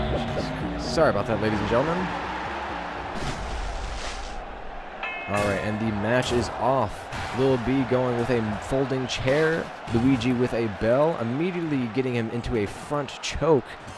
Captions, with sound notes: Jesus Christ, sorry about that ladies and gentlemen! *Bell rings* Alright, and the match is off! Lil B going with a folding chair, Luigi with a bell. Immediately getting him into a Front Choke!